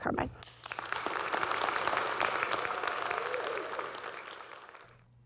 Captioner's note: audience clapping